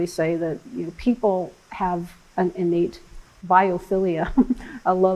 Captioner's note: laughs